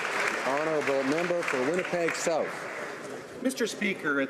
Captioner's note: some Applause